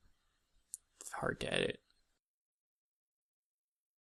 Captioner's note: quietly